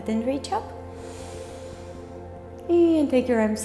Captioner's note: breathing